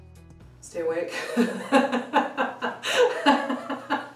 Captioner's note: laughs